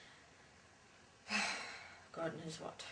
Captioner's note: sigh